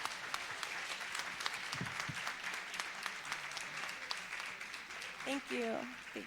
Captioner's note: applause